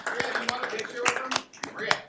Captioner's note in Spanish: Aplausos